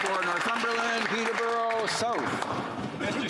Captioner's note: applause